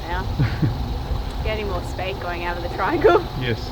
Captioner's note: laughs